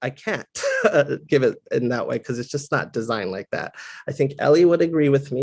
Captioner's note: laugh